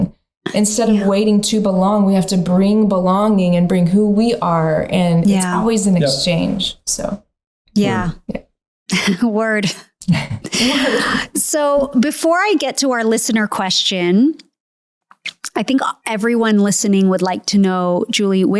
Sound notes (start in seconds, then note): 10.0 chuckling